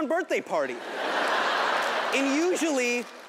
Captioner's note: audience laughing